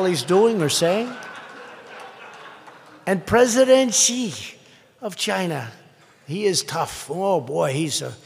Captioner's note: laughter